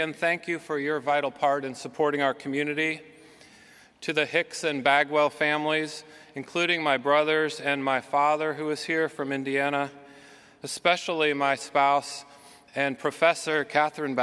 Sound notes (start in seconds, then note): none